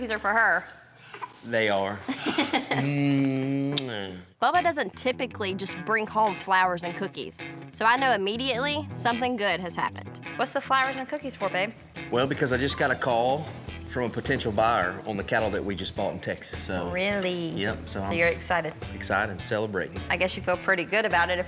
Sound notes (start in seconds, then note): 3.6 smooch